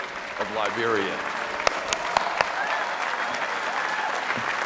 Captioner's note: applause